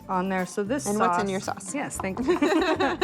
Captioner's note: laughter